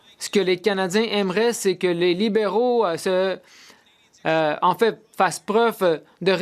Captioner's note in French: voix de l'interprète